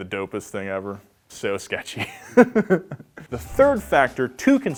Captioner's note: chuckling